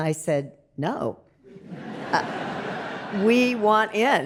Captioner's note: audience laughs